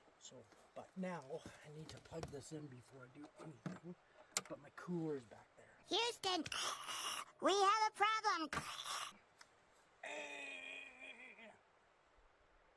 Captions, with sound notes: But now, I need to plug this in before I do anything. But my cooler's back there. [Grunts]